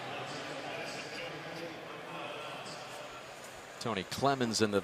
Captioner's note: pa announcement